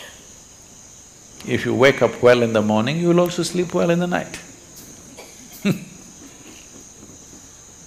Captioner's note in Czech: Smích